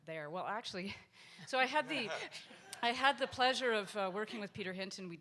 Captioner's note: audience laughs